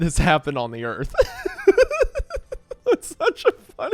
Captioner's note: laughing